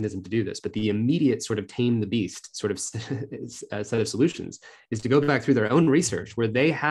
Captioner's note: laughter